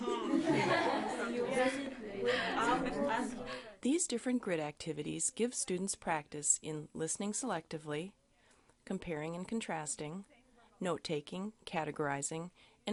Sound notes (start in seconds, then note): 0.0 laughter; 2.9 voiceover